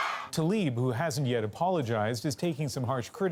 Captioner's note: cheering